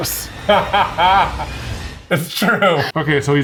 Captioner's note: laughs